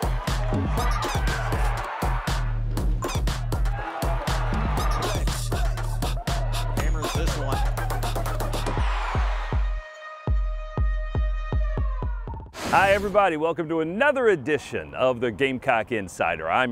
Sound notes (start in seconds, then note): 0.3 upbeat hip-hop music; 8.3 cheering; 10.3 drum beats